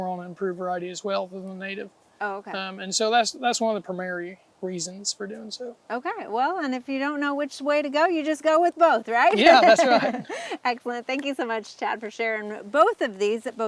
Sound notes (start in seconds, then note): 9.2 laughing